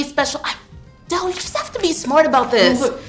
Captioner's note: sighing